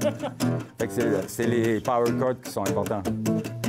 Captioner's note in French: rires